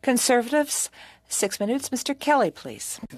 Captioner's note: speaking French